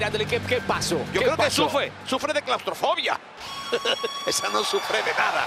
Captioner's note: laugh